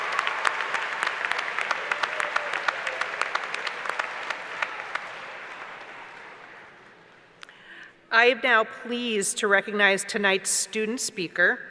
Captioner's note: applause